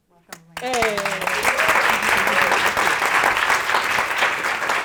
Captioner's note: audience applauding